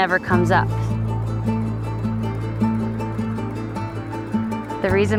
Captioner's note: wind blowing